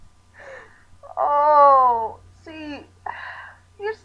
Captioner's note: sighs